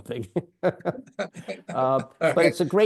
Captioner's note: laughing